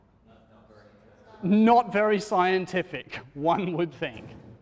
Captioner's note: chuckles